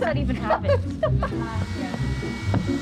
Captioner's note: laughs